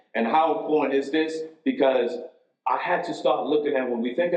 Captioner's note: none